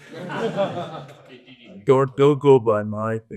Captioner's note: audience laughs